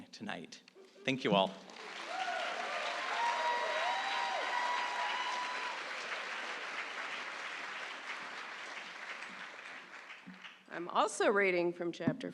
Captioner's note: applause